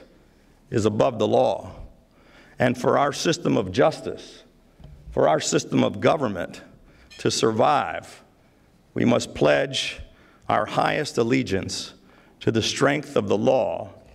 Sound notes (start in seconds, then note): none